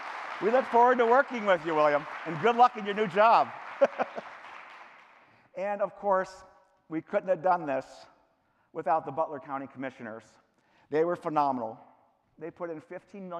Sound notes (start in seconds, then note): 0.0 cheering; 3.3 clapping